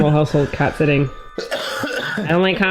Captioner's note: coughs